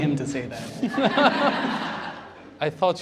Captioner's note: laughter